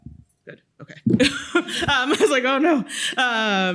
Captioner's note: chuckles